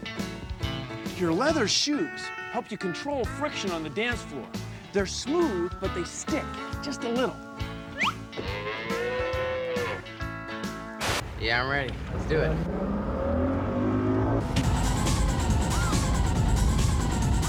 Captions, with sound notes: YOUR LEATHER SHOES HELP YOU CONTROL FRICTION ON THE DANCE FLOOR. THEY'RE SMOOTH, BUT THEY STICK JUST A LITTLE. [ COW MOOS ] YEAH, I'M READY. LET'S DO IT. [ UPBEAT MUSIC PLAYS ]